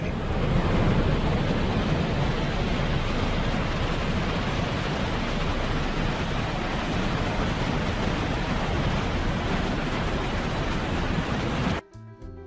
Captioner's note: murmur of water